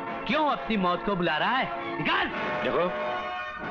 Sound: none

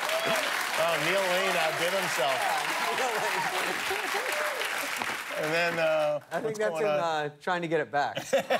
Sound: laughter; cheers and applause

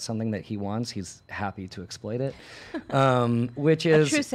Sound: laughs

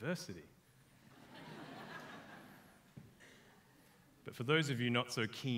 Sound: audience laughs

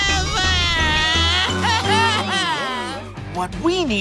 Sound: bawling

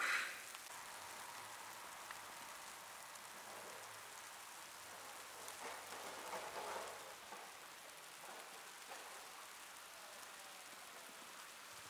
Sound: snow flurry, indistinct chatting, muffled sounds

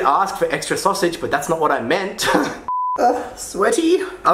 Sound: laughs

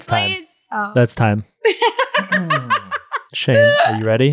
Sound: laughs

